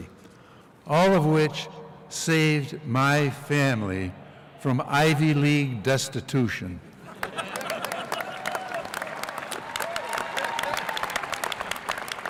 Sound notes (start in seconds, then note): 7.0 LAUGHTER and APPLAUSE